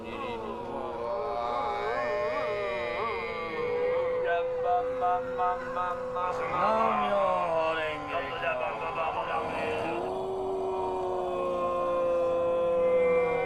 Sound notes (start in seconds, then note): 0.2 chants; 0.2 students Chanting; 0.2 吟诵; 0.2 学生吟诵; 5.4 student Chanting; 6.8 chanting; 6.8 吟诵